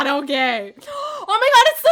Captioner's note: gasp